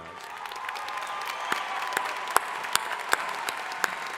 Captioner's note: crowd applauding